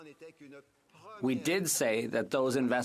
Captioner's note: speaking French